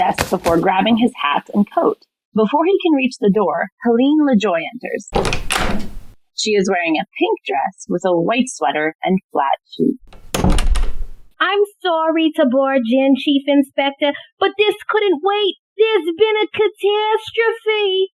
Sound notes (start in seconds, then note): 5.1 door slams open; 5.1 door slams shut